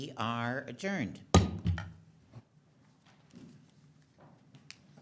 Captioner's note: hammer bangs